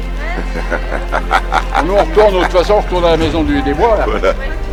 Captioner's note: laugh